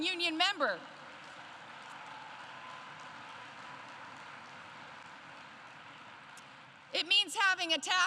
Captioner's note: applause